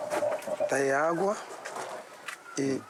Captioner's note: Portuguese spoken audio